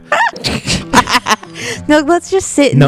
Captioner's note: laughter